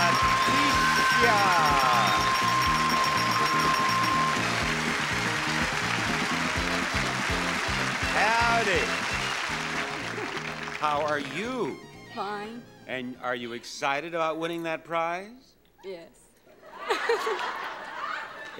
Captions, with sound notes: Leticia! (audience clapping) Howdy! - Hi. (laughs) - How are you? - Fine. - And are you excited about winning that prize? - Yes. (laughs) (audience laughs)